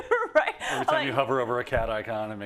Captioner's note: laugh